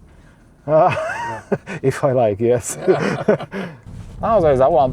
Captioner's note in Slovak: smiech